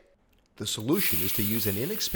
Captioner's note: steak sizzles